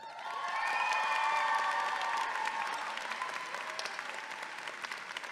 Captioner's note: audience clapping and cheering